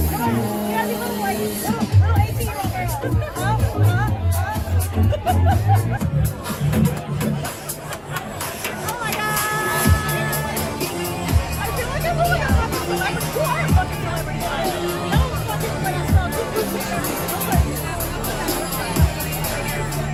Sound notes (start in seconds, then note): 4.9 both laugh